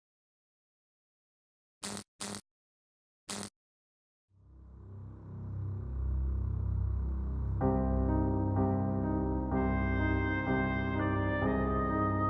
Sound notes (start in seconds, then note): 1.8 buzzing; 4.4 dark melancholic music